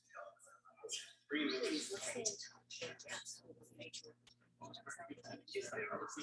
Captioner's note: people chattering indistinctly